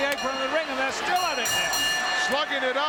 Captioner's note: bell ringing